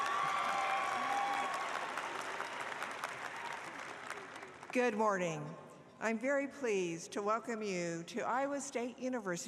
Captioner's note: applause